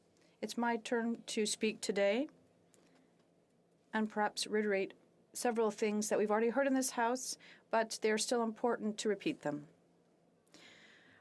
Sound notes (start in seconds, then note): 3.6 speaking French